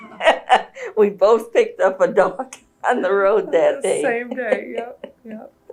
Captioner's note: laughter